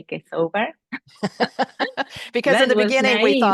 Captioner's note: laughter